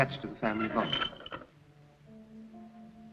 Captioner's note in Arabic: صرير الباب; موسيقى هادئة